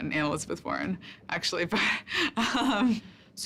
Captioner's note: laughs